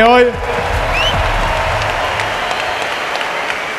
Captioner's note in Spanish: Aplausos y gritos